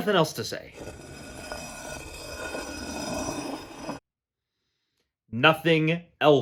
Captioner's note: the sound of a heavy stone grinding against cement plays